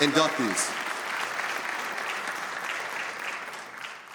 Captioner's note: audience applauds